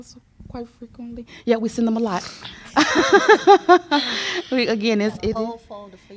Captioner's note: laughter